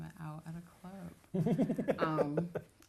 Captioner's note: laughs